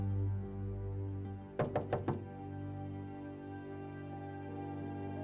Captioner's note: knock on door